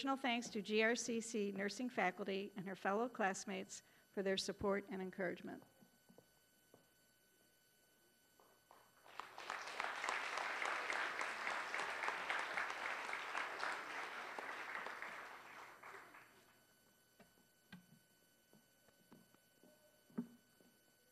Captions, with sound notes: ADDITION THANKS TO GRCC NURSING FACULTY AND HER FELLOW CLASSMATES, FOR THEIR SUPPORT AND ENCOURAGEMENT. (applause)